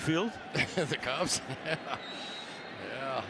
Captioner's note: laughs